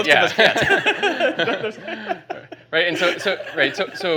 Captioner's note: laughing